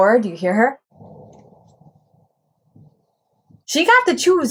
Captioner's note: low scratching sounds